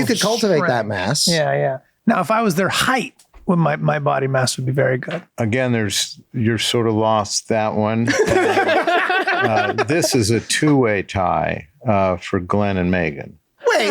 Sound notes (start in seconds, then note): 8.0 all laughing